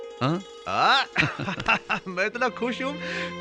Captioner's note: laughing